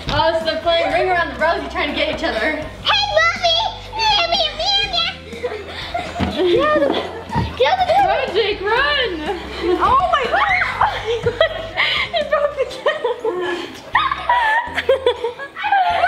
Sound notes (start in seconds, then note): 6.4 taunts; 11.5 laughs; 14.2 laughing